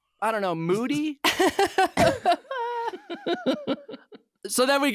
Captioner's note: laughing